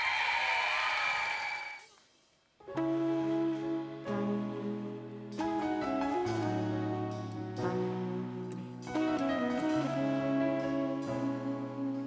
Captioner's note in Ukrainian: оплески